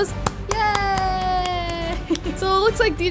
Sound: claps

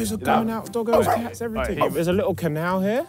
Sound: barking

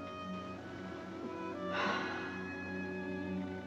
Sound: sighs

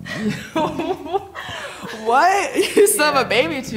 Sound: laughs

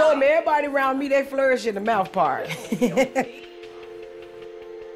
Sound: chuckles

